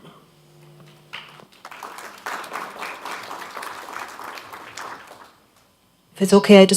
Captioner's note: applause